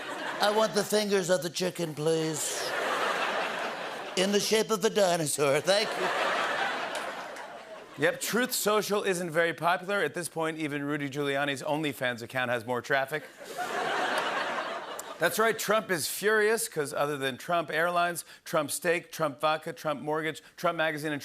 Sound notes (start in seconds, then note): 0.0 As Trump; 13.2 laughter